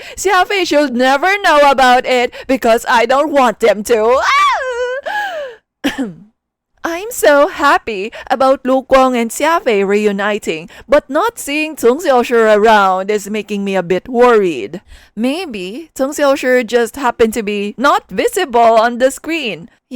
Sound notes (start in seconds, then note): 4.1 wailing; 5.8 ahem